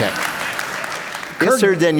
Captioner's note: applause